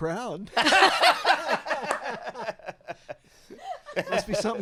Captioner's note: everyone laughing